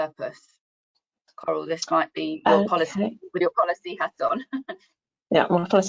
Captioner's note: laughs